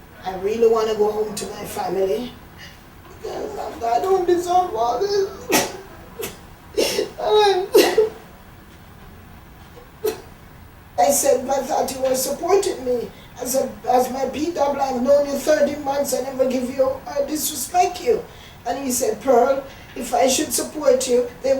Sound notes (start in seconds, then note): 3.5 crying; 6.7 sobbing